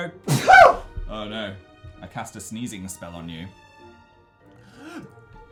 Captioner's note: sneezes